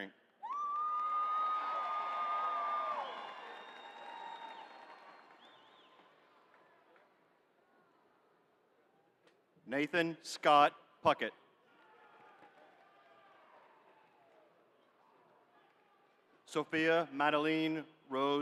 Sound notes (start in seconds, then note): 3.7 cheering